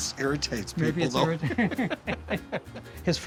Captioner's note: laughing